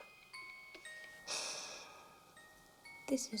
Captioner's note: sighs